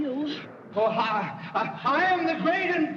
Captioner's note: stammering; boastfully